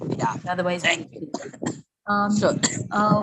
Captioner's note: cough